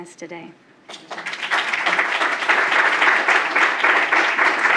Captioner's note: applause